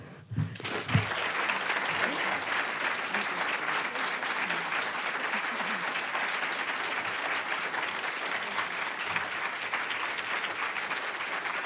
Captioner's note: applause